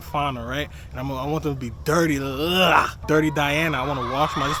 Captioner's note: makes noise of disgust